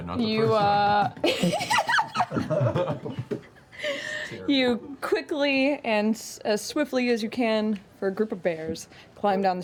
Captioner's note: giggles